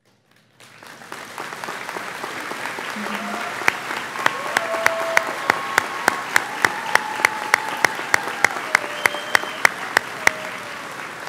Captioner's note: audience applauds; audience cheers